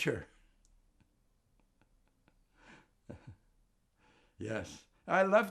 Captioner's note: laughing